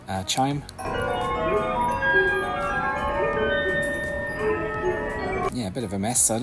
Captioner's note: discordant chimes